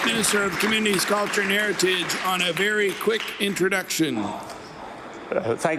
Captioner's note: some Applause